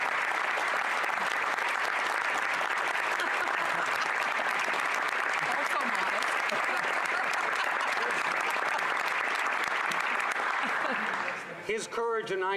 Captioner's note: applause